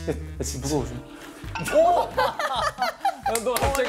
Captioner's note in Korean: 푸핫